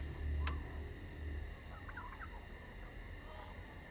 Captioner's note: chicken clucks; rooster crows